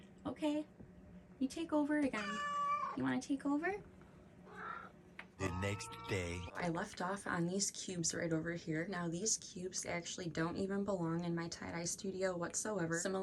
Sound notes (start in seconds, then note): 2.2 meows; 4.4 purrs